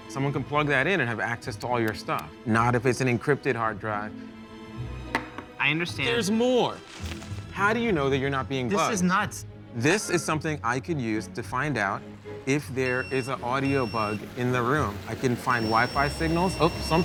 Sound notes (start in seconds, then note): 12.6 beeping; 15.2 device beeps